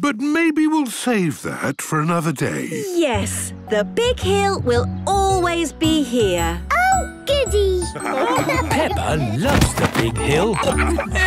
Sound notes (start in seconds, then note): 7.9 laughing